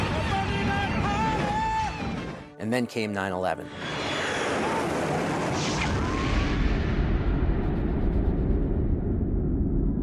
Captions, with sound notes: Monday night party! And then came 9/11. [JET ENGINES ROARING] [SCREAMING]